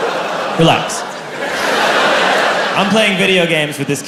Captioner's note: crowd laughs